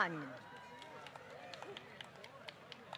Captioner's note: applause